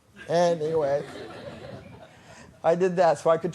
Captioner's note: laughter